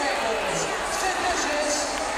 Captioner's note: crowd chatter